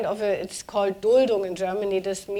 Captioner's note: speaking german